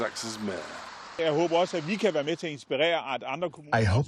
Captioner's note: through translator